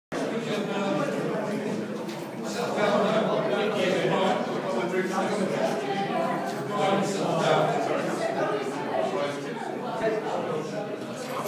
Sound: many voices; many voices and tapping

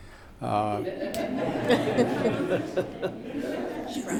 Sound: laughing

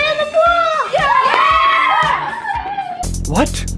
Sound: kids cheering

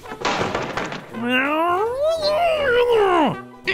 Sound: angry grr

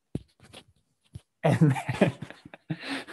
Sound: laughs

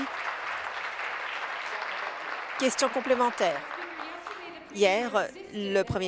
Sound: applause

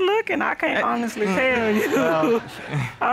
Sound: audience laughing; chuckles

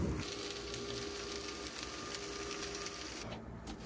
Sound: food simmering

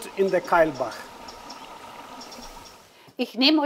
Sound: sound of water

